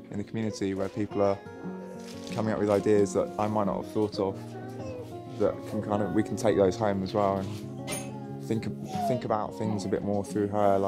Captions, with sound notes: in the community, where people are coming up with ideas, (paper crackling) that I might not have thought of, that can kind of, we can take those home as well, and think about things a bit more through her,